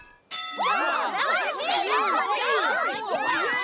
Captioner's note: bell dings, cheers and applause